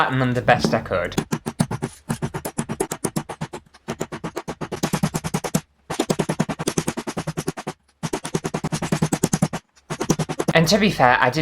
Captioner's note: fast Hammering Sounds